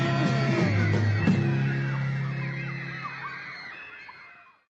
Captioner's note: crowd shouting